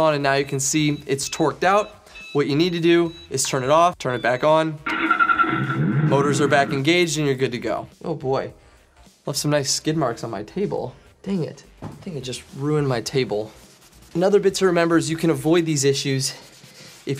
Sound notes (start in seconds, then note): 4.8 engine turns on